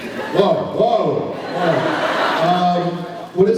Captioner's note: laughs